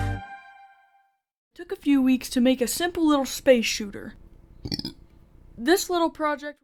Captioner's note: burp